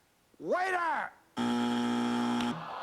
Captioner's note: buzzer